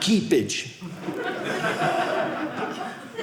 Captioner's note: audience laughing